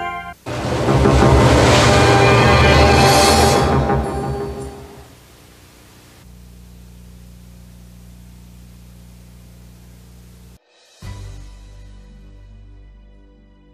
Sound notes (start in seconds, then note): 5.0 VHS static on television; 10.7 2000s nostalgic music